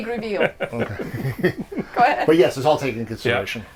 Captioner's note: laughs